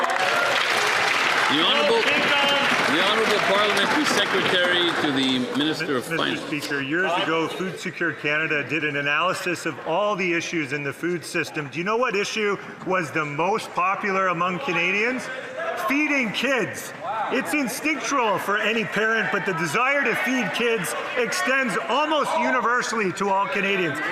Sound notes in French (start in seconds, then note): 5.7 voix de l'interprète